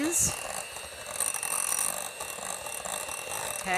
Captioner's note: blender machine roaring